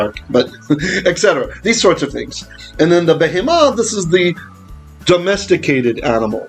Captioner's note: Hebrew